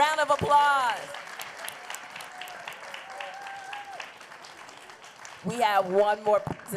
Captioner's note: applause